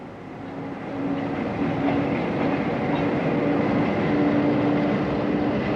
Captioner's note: train passes